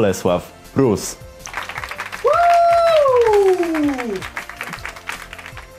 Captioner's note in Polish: klap klask